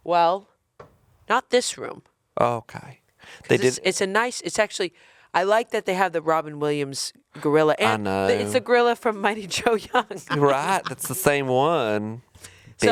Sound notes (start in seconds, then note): 10.0 chuckling